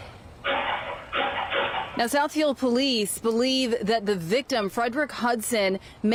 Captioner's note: gunshots